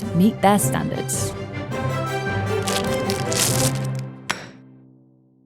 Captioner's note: dramatic music; wrapping ripping; burrito thumping